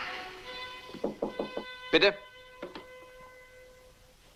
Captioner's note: knocking